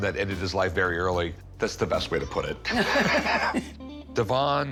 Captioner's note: laughter